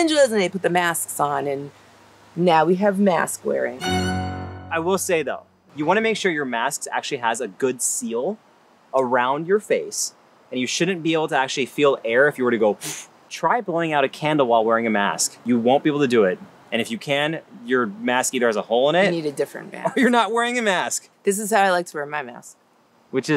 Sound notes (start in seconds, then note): 3.8 sharp violin music; 12.8 blows